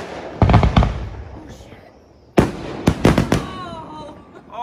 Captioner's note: sudden burst of shots